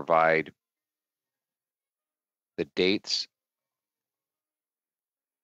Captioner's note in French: voix de l'interprète